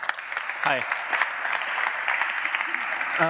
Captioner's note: applause